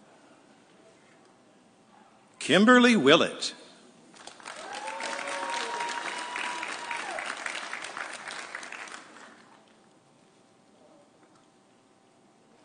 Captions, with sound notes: Kimberly Willett. (audience cheering)